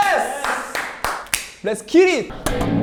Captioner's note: clap